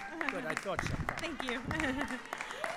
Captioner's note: applause